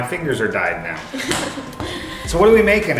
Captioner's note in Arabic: تضحك